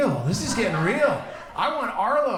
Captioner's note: audience laughs